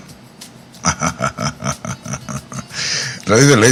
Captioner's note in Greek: γέλια